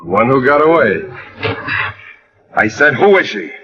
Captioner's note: sighs